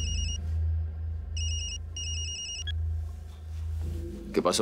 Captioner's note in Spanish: Suena celular